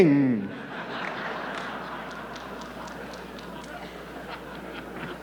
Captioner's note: audience laughing